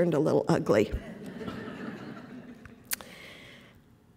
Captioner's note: laughter